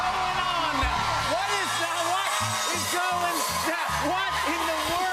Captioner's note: cheers and applause